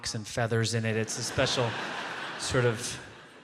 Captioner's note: audience laughs